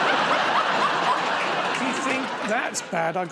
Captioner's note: laughter